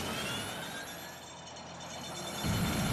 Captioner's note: metallic squeaking